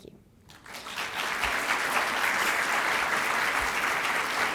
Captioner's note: applause